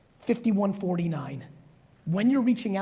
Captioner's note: none